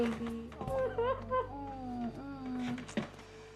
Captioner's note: crying